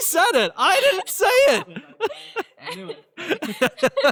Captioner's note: laughs